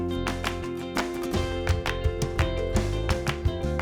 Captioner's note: footsteps